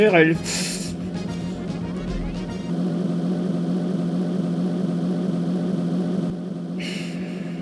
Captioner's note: sound of a very weak bike